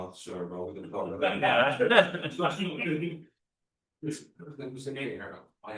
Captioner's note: chuckles